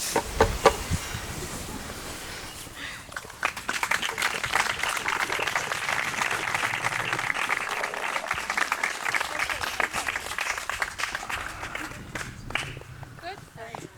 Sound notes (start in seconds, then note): 3.4 applause